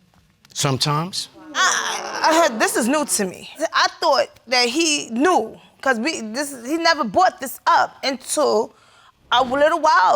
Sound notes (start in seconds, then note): 1.3 audience sighs